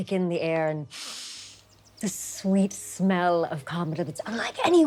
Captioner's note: deep breathing